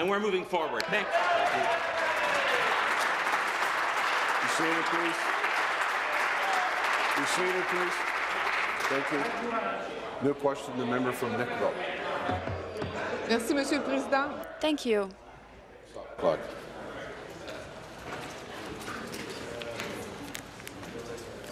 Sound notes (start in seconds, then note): 5.8 applause; 15.8 speaking in french